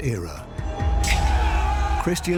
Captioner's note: battle cries